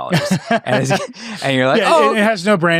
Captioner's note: laughing